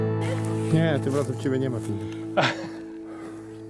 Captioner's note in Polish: śmiech